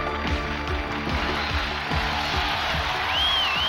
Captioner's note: applause